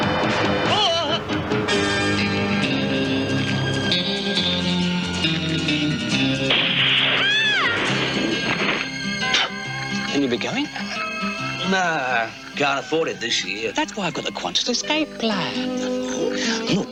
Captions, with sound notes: - Aah! (upbeat country music) [gunshot] [lady screams] - Will you be going? - No, can't afford it this year. - That's why I've got the Qantas Escape Plan.